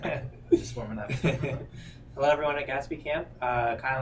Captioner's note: man in white shirt chuckles; chuckles